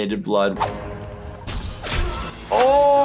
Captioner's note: speargun fires